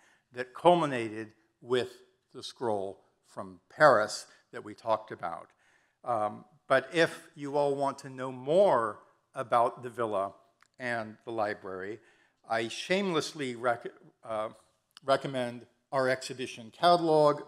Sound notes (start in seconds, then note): none